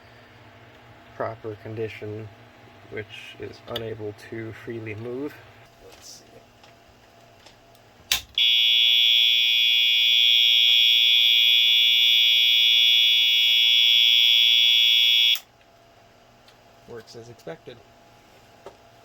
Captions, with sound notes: Proper condition, which is unable to freely move. [Under breath] Let's see... [Plastic snaps, fire alarm sounds] [Switch flips] Works as expected.